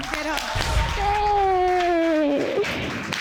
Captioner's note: sobbing